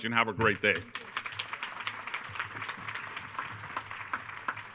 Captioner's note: attendees applauding